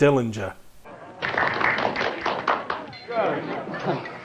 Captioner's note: all clapping